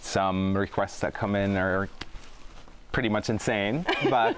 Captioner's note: laughs